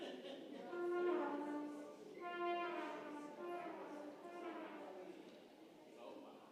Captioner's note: congregation chattering; trumpet music